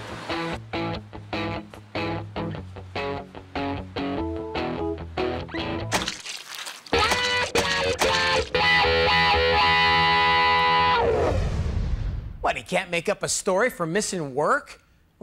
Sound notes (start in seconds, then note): 0.3 guitar rock; 5.9 splat noise; 6.9 guitar riffs